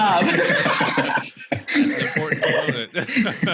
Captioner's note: laughs